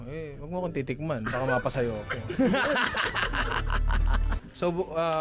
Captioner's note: laughter